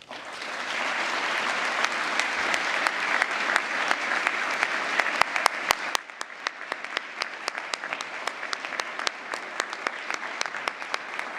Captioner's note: applause